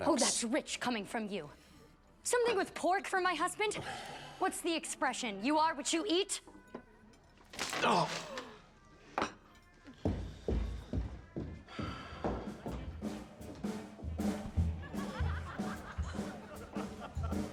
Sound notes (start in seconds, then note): 10.0 footsteps receding; 14.6 customers laughing